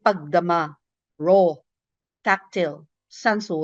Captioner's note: speaks in foreign language